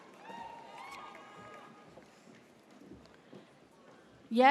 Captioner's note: audience cheers